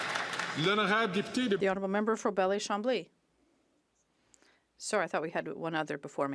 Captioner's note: some Applause